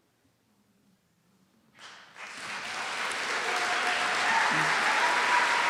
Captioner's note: applause